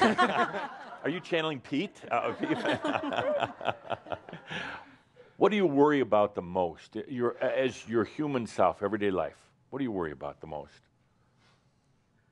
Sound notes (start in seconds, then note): 2.1 laughter; 2.3 more laughter